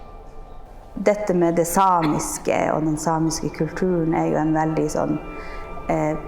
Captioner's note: speaking in Norwegian language